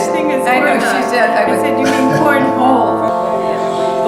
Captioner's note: laughter